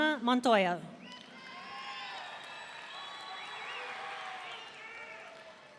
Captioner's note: audience cheering